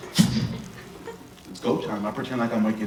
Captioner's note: flick sound